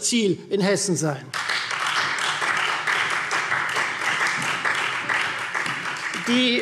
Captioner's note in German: Beifall Freie Demokraten und vereinzelt SPD